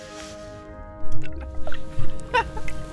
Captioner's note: glug; laughing